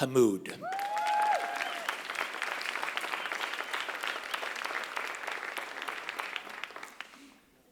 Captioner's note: applause